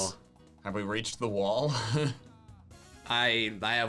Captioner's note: laughs